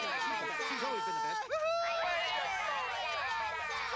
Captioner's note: cheering and excited chatter